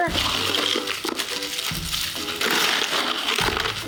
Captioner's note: ice crumbling